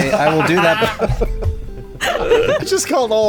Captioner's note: laughter; laughing